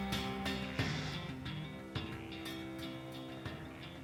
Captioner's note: sighs